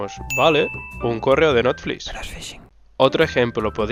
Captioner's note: whisper